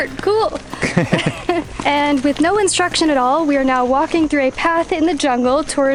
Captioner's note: laughs